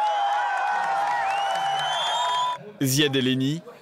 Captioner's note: crowd screams